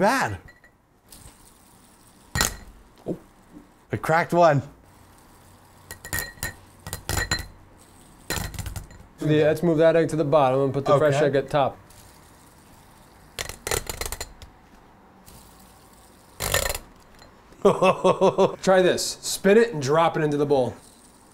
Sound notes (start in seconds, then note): 3.1 taps on egg; 12.2 taps on egg